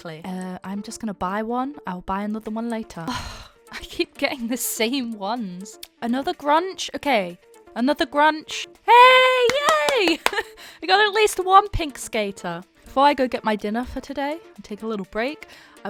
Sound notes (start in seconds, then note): 3.2 sighs; 9.3 claps